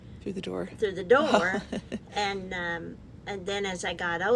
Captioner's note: laughs